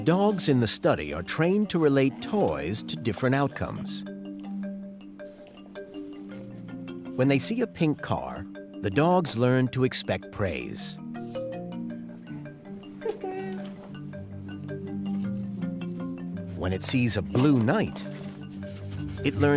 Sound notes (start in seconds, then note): 12.9 exclaims